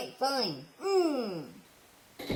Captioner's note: groans; door closes